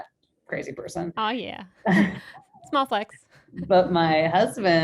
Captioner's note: both laughing